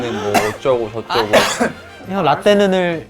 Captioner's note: cough